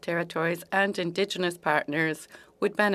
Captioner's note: speaking French